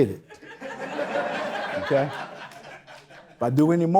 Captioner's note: audience Laughter